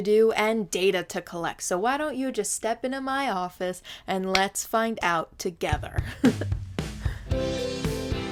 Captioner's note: giggle